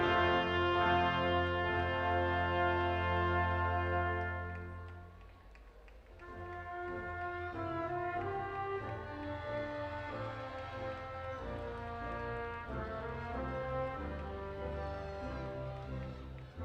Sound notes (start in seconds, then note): 8.5 audience applauding and cheering